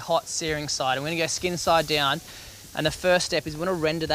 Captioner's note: meat sizzling